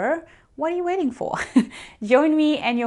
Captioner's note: chuckles